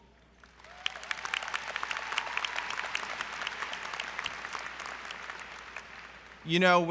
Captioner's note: applause